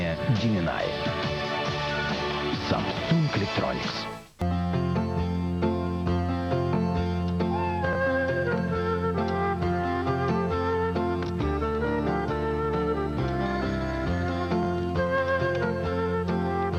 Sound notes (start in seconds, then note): 4.4 meow; 4.4 new Year's music